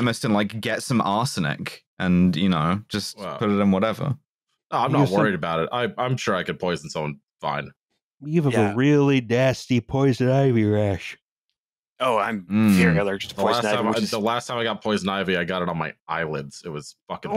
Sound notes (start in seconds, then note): 8.9 yawning